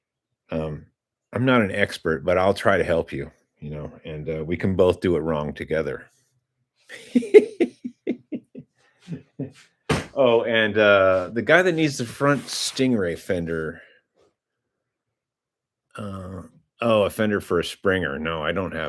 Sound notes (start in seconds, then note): 6.9 laughter